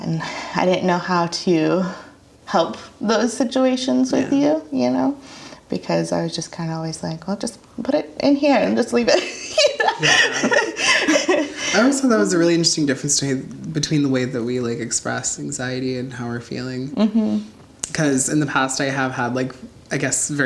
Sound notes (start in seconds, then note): 9.2 laughs